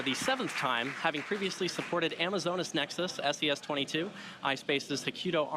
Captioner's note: applause